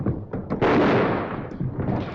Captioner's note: gunshot